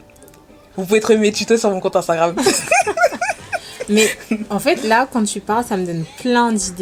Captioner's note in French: rires